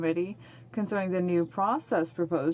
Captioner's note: speaking French